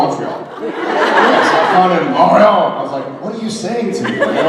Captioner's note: audience laughs